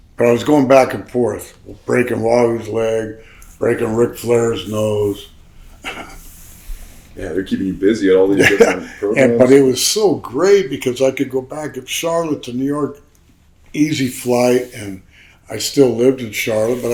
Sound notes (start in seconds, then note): 5.8 chuckles; 8.1 laughs